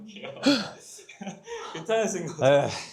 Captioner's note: gasp